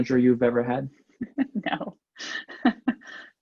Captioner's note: laughs